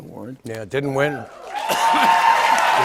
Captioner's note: cheers and applause